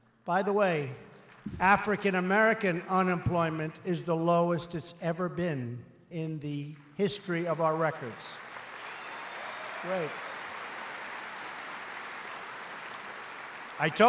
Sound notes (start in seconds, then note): 8.5 applause